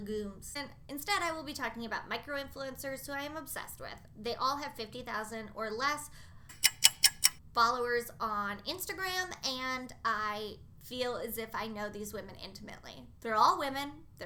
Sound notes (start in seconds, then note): 6.5 clock noise